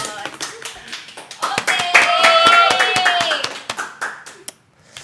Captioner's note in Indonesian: applause